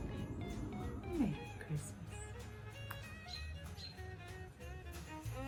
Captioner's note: blows kiss